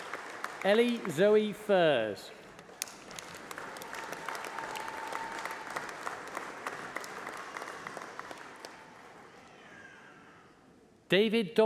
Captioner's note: applause